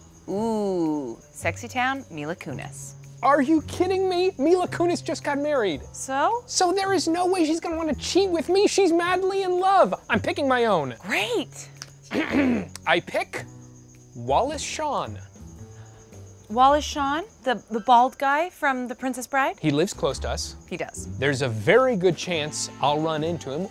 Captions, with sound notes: Ooh, sexy time-- Mila Kunis. - Are you kidding me?! Mila Kunis just got married. - So? - So there is no way she's gonna want to cheat with me. She's madly in love! I'm picking my own. - (testily) Great! - (clearing throat) I pick... Wallace Shawn. - Wallace Shawn... the-- the bald guy from The Princess Bride? - He lives close to us. - He does. - There's a very good chance I'll run into him.